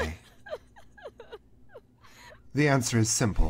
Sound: continued nearby crying

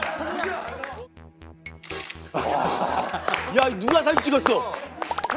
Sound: the sound of a shutter resonated in the silent auditorium

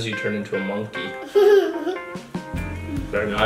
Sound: laughs

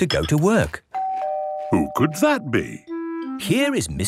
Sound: doorbell ringing

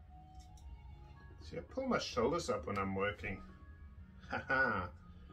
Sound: laughing

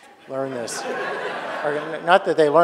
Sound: audience laughing

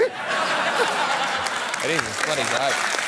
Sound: laughter

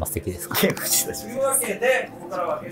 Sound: laughing

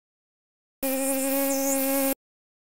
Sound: buzz

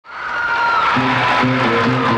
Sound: audience cheering; upbeat rock music

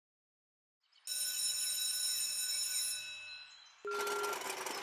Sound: school bell rings; beeping

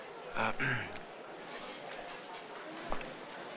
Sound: clears throat

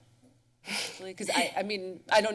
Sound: chuckles

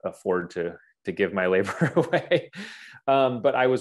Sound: chuckles

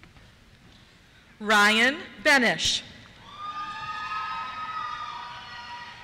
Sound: cheers

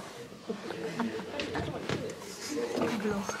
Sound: and I laughing so harrdddd

